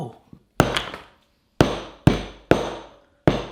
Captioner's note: banging